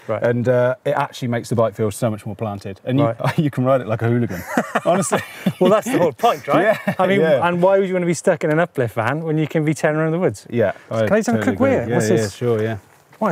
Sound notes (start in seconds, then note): 4.2 laughs